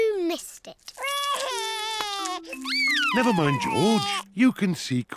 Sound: sobs

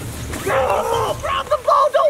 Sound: groans

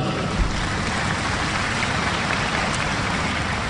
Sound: applause

